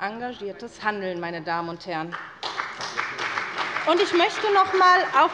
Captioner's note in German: Beifall bei der SPD